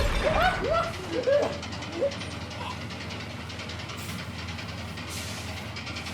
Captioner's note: gun fires; urgent music; Ramsey laughs